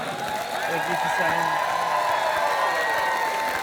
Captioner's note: applause